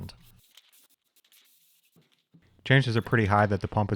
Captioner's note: paint can spraying